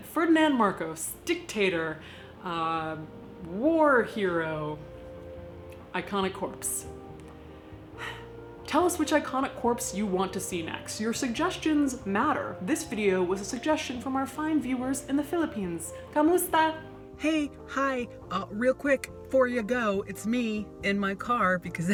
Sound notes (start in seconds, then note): 7.8 sighs; 16.0 speaking foreign language